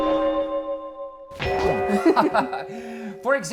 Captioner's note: chime; laughing!